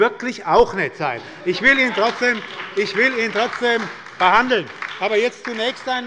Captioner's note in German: Heiterkeit und Beifall bei der SPD und der LINKEN